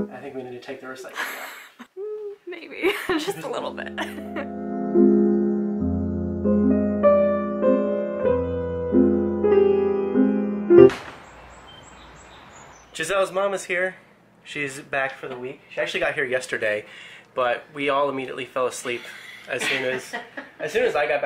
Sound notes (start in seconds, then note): 2.8 laughs; 10.8 slam